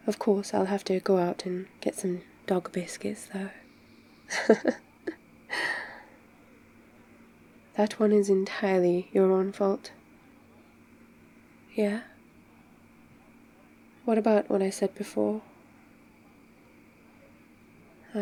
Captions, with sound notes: of course, I'll have to go out and get some dog biscuits though *laughs* that one is entirely your own fault yeah? what about what I said before